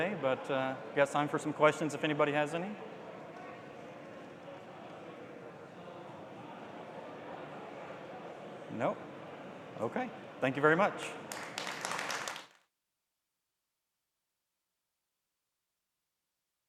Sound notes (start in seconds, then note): 11.2 audience applauds